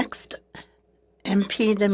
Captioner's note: speaking French